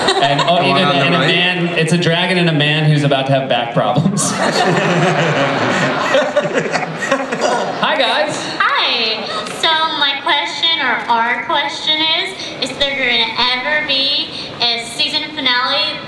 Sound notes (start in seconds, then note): 4.0 laughter; 8.6 voiceover